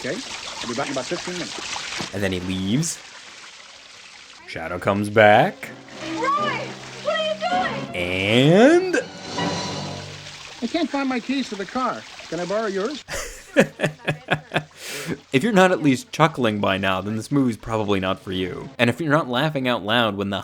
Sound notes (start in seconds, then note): 9.0 suspenseful music; 13.0 laughing